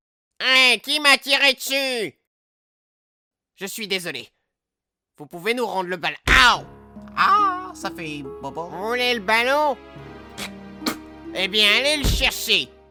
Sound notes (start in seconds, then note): 10.3 spits